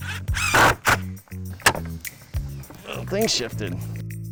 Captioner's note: drilling wood